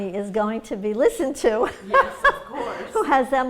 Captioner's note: laughs